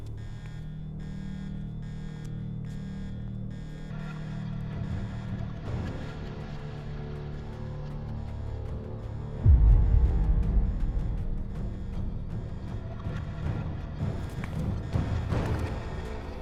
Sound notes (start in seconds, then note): 9.1 mellow dramatic music; 9.4 alarm blaring